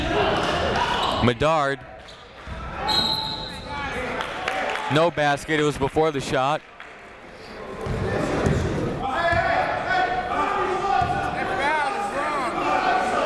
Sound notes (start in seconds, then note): 2.8 whistle; 7.7 chatter